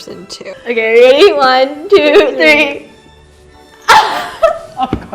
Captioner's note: laughs